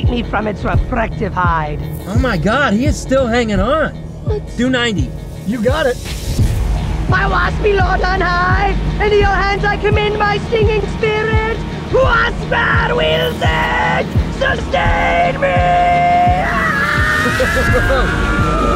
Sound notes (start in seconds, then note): 1.5 buzzing; 6.3 music intensifies; 15.6 screaming; 17.1 chuckling